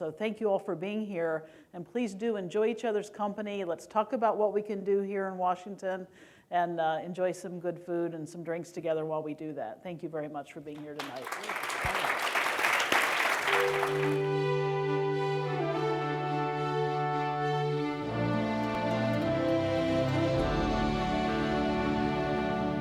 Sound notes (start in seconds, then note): 13.8 applause